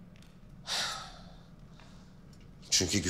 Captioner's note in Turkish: Nefes veriyor